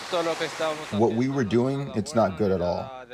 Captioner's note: through translator